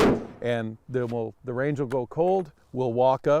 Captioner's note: shot blasting